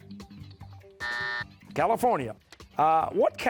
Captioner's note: buzzer